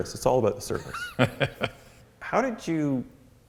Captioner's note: laughs